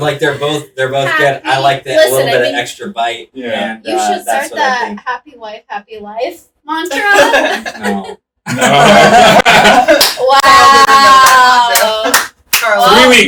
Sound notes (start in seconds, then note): 8.9 laughing; 9.7 clapping